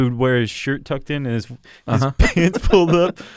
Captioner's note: laughter